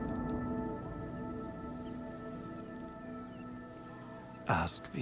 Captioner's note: birds chirping